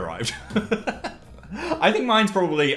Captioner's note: Phil laughing